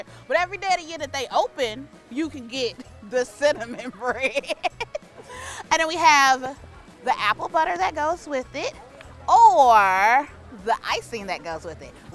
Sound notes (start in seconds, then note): 3.4 laughs